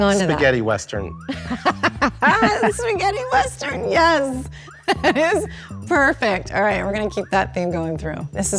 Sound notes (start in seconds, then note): 1.3 laughs